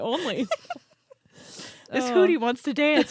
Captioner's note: both laughing